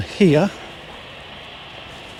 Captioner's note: airplane engine roaring